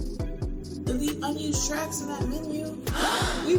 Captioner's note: gasp